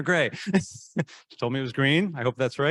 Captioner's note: laughing